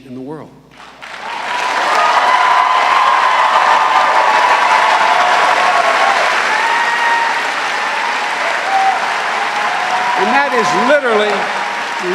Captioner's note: cheers and applause